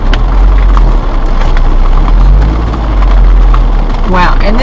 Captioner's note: rain splattering